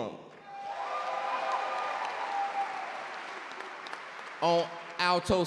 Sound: audience cheer and clap

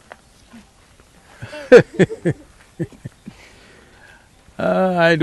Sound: Sadhguru laughs

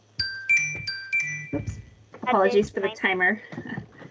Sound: chime

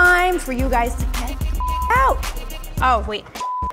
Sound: computer bleeps

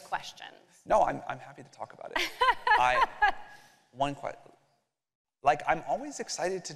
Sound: laughter

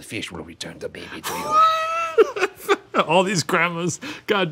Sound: laughing

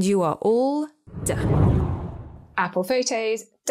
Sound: air whooshes

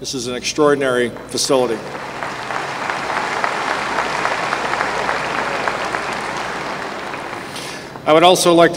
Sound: applause

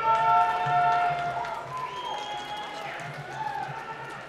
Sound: cheering and applause

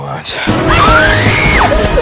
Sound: intense pain and screaming

